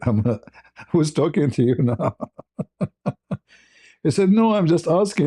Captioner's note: ketawa